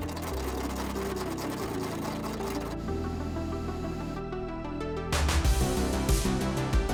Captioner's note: tool whirring; upbeat music